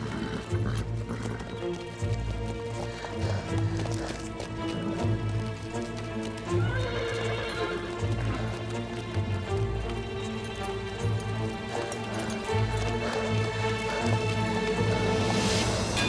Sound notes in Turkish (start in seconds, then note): 6.4 At kişneme sesi